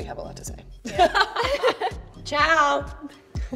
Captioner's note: laughing